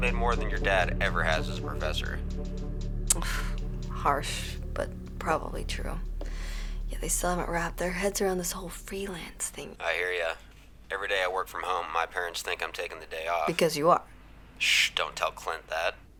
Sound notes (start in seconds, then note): 3.1 scoffs